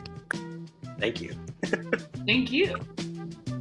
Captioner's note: laughs